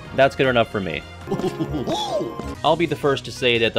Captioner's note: Goofy laughter